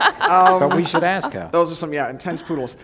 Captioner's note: laughter